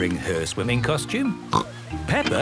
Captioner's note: snorts